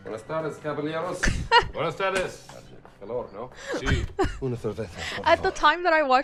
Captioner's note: laughter